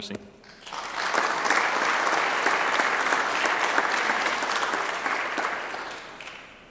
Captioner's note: clapping